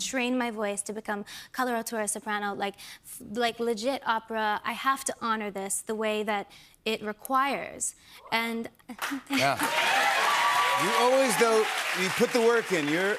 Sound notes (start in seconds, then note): 9.4 cheers and applause